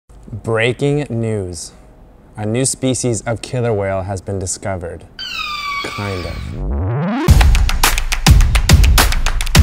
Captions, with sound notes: - Breaking news, a new species of killer whale has been discovered, kind of. (whale cries) (upbeat music)